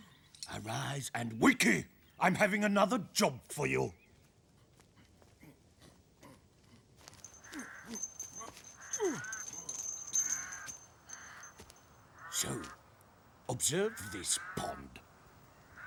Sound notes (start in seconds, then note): 7.3 crow cawing; 8.9 grunting